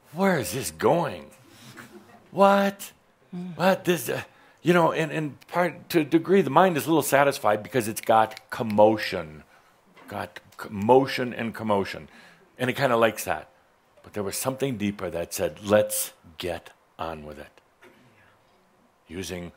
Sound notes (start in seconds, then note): none